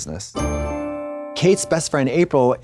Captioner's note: bright chime